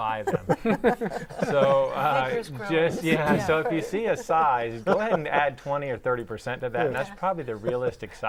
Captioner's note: laughing